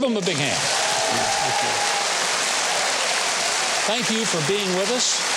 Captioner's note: audience cheering